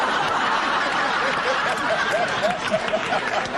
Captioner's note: laughter